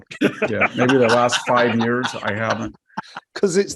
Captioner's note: laugh